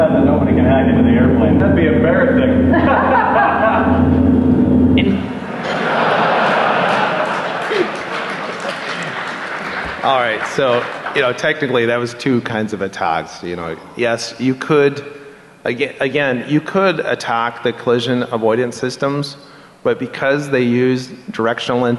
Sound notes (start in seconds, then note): 5.4 laughter